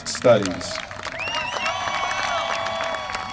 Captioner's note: applause